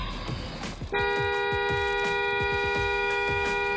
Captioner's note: long single car horn